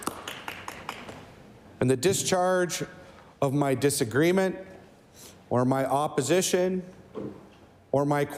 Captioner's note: applause